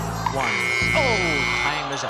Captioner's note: buzzer